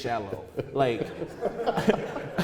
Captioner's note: laughing